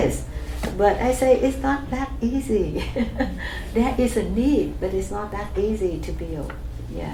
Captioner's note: laughs